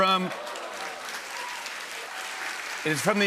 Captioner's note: cheers and applause